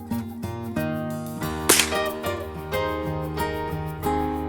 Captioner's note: gun shot